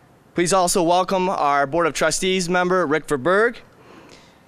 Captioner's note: none